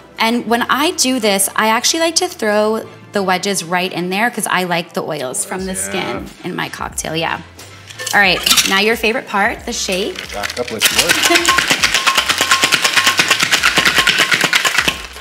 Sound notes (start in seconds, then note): 10.1 beverage shaking